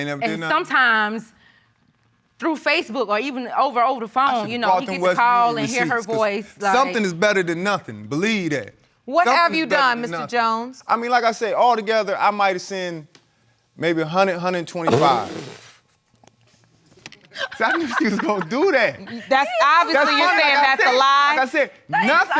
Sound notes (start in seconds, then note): 14.2 laughs